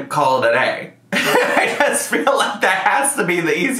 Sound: laughs

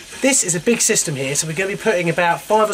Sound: heater running

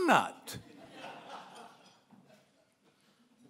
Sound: laughing

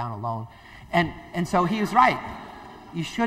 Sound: laughter

